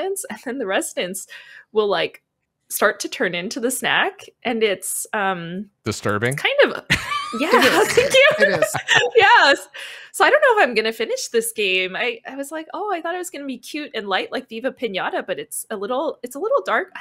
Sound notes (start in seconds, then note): 6.9 laughs